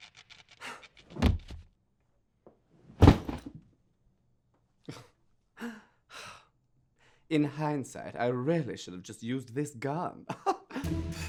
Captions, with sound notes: *thud* In hindsight, I really should have just used this gun!